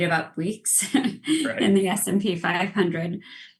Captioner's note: laughs